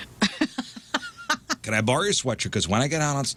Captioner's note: laughing